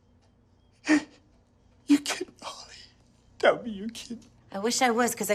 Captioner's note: he cries